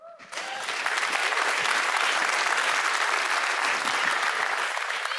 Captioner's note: applause